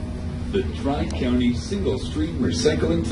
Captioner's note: voiceover